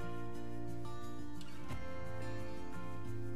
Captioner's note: none